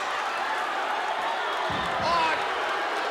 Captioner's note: crowd booing